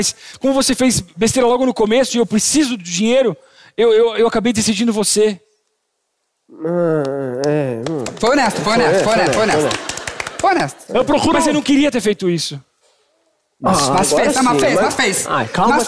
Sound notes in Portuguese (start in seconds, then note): 7.8 palmas; 9.0 palmas leves